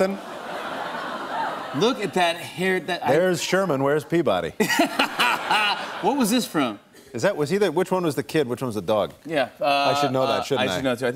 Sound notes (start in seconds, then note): 0.1 laughter; 4.6 laughter